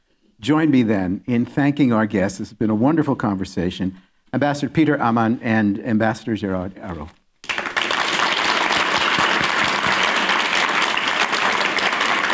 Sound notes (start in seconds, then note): 4.2 applause